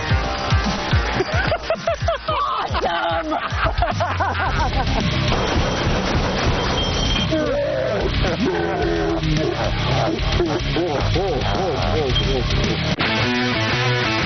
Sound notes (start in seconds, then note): 5.2 gunfire; 6.3 laughter